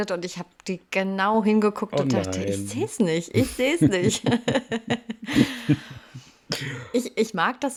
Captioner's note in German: gelächter